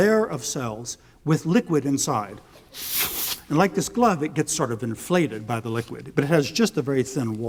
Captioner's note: blowing